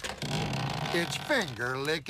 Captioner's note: door squeaking